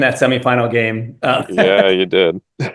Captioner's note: laugh